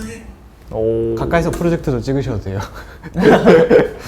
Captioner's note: haha